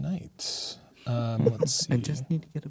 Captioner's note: laughing